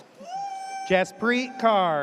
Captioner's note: audience cheers